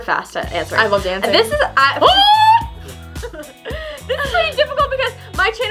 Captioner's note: screams